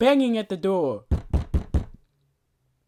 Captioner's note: pounding on door